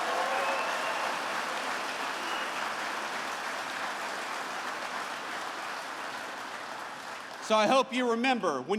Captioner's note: applause